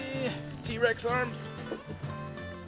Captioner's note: grunts